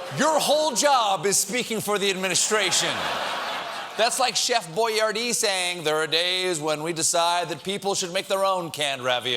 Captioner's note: laughter